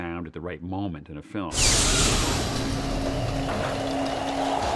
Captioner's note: whooshing